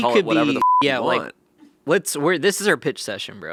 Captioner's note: beeping